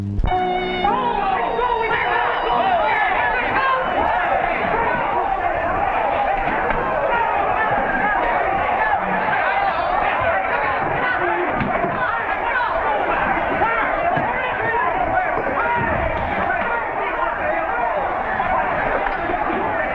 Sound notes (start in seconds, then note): 0.6 crowd noise; 10.4 crowd noise